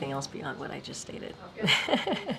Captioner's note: laughs